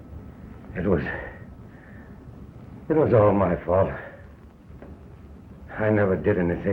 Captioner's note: breathes heavily